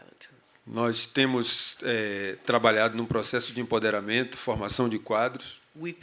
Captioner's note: speaking portuguese